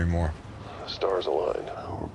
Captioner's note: on phone